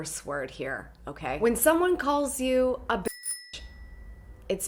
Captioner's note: bell rings